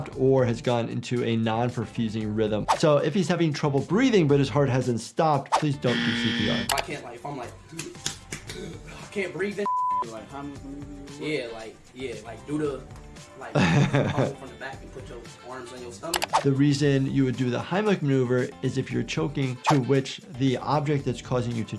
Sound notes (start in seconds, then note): 7.8 gasping